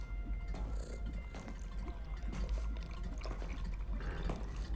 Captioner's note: footsteps; cat purring